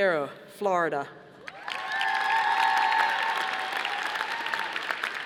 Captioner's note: audience applauding